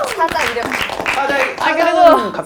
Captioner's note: suddenly clapping